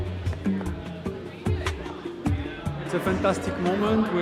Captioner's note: people talking